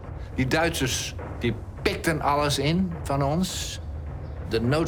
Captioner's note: speaking foreign language